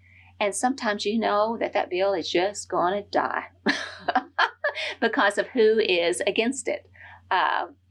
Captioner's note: laughs